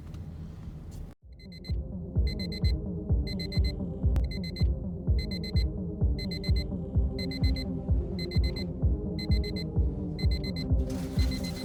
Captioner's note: alarm clock rings on as house music plays